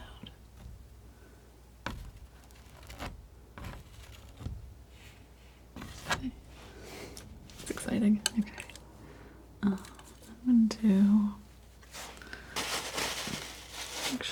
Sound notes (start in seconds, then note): 1.7 scratching; 11.7 scratching